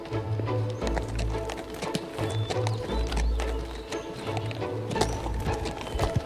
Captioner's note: bright music; horses hooves clopping